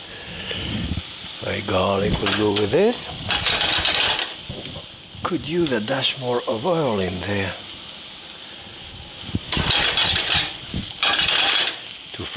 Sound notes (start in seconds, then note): 3.0 pan rattles; 10.9 pan rattles